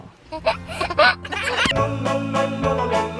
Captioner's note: baby laughs; folk music